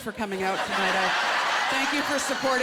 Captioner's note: laughter